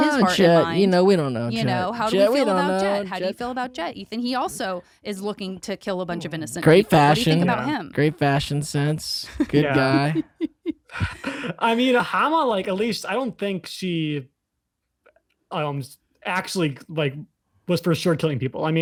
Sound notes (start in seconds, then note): 9.2 laughter